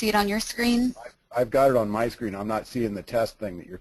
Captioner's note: voiceover